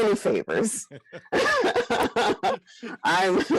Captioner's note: laughs